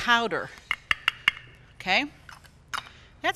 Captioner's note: teaspoon tapping